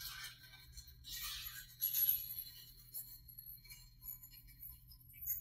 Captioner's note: metal tinkling